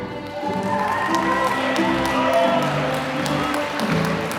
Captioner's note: applause